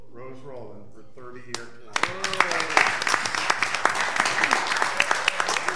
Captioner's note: audience applauding